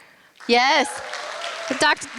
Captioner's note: applause